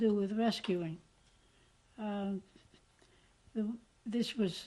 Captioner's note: pauses for 3 seconds